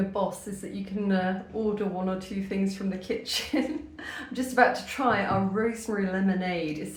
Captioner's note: laughter